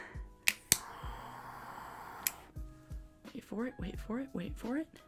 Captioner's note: gas igniting